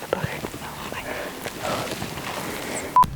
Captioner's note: speaker speaking faintly